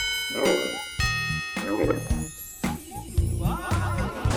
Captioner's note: upbeat instrumental music; camels grunting